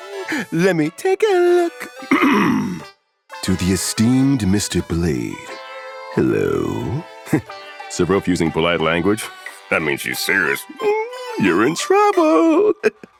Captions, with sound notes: Let me take a look. *cough cough* "To the esteemed Mr. Blade, hello." Heh, Silver Wolf using polite language? That means she's serious, you're in trouble.